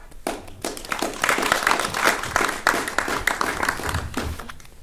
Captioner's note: attendees clapping